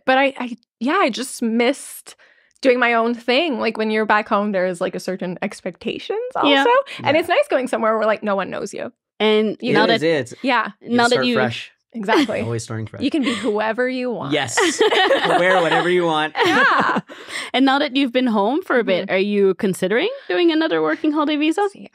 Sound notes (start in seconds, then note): 14.3 all laughing